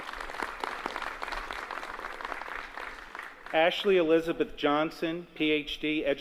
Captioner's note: applause